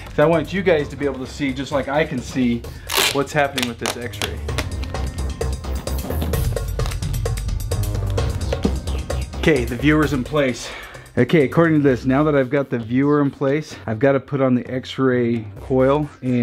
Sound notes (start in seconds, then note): 2.8 tape rips; 4.6 upbeat music